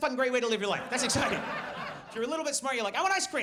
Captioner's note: audience laughs